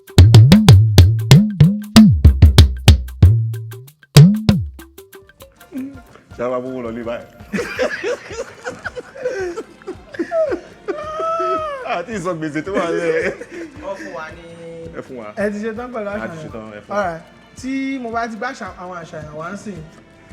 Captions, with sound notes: (Drum beats) At this rate, we might not even take money home! (Everyone laughs) We haven't even cleared our debts. Let's see the options. Alright, I'll show the options again,